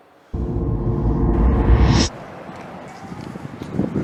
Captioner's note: whooshing sound